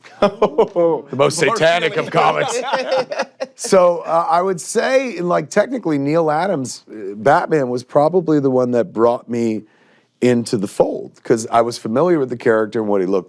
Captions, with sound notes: -(LAUGHS) -The most satanic of comics. (LAUGHING) So I would say, like, technically, Neal Adams' Batman was probably the one that brought me into the fold, because I was familiar with the character and what he looked like